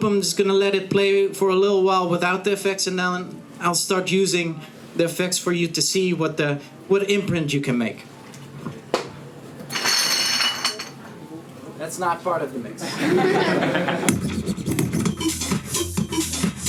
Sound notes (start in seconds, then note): 9.7 crashing; 12.8 audience laughing; 16.5 looping electronic music